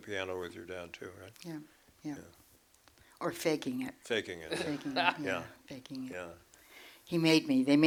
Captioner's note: laughs